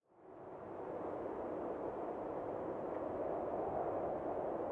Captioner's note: howling winds